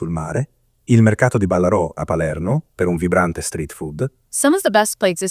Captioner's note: foreign language 00:04:55